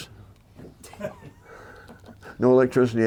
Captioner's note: laughter